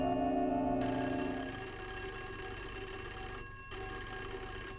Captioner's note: phone ringing